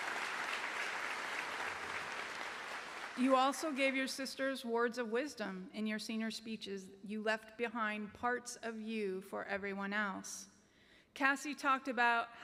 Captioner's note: applause